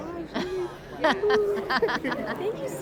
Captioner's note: laughs